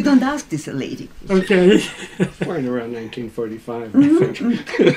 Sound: laughs

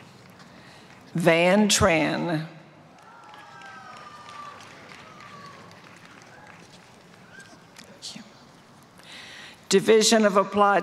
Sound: applause; applause

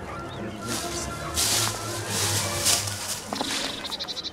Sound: dogs barking; shuffling

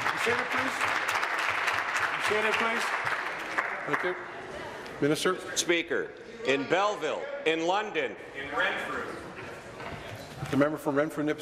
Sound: applause

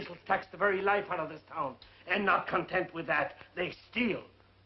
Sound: none

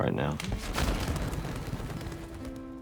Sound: wings fluttering

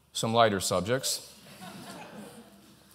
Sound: laughter

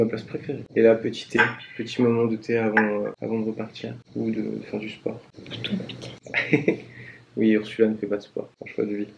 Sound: laughs

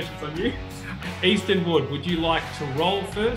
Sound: laughing

